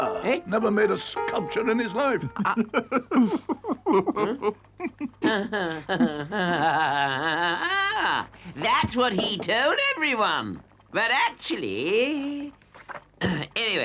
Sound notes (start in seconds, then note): 5.3 Toad laughs mockingly